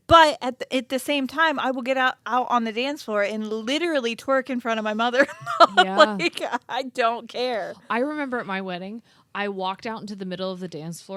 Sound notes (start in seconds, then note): 5.2 laughs